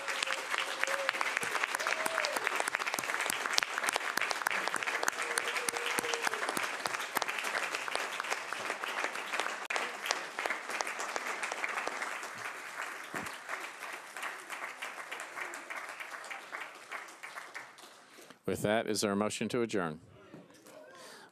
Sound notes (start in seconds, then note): 7.3 applause